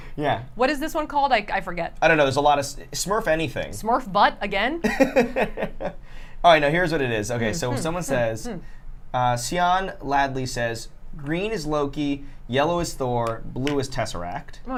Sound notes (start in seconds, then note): 4.8 laughs